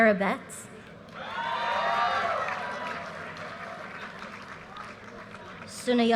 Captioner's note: audience cheers and applause